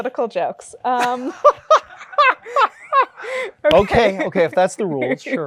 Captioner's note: laughter